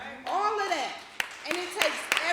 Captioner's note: applause